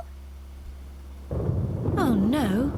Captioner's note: thunder crashes